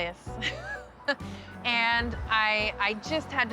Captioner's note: laughs